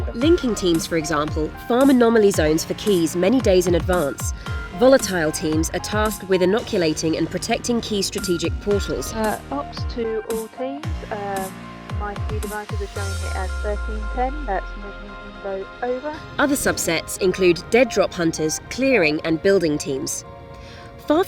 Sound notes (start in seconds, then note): 9.5 voiceover